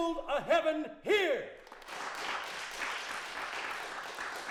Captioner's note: crowd clapping